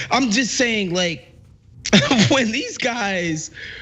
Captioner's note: laugh